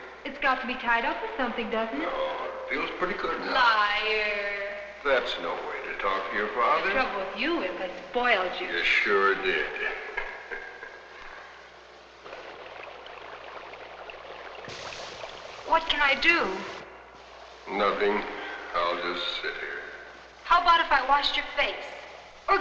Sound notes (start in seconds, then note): 9.4 laughing; 12.3 liquid bubbling